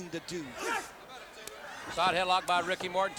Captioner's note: wrestlers grunting